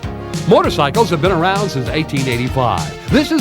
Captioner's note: none